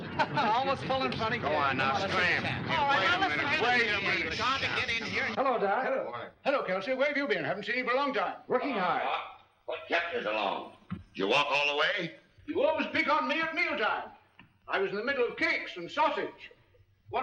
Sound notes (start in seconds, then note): 0.0 laughing; 2.8 men bickering